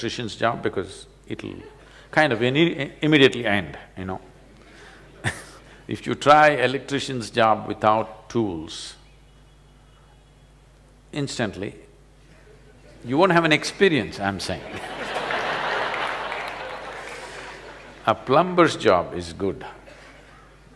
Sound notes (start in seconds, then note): 14.6 laughter; 14.6 笑聲